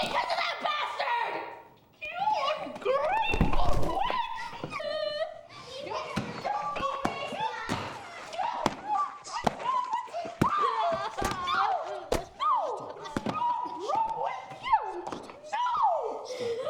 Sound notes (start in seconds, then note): 5.2 crying; 6.5 shouting and screaming; 11.3 cries